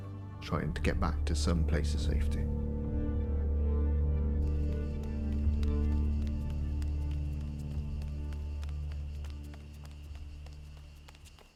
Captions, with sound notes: and trying to get back to some place of safety. [hurried footsteps pattering]